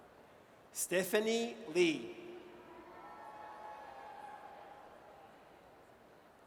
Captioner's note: audience cheers